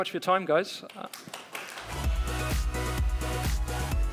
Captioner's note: applause